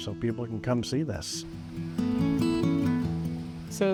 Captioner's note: soft breeze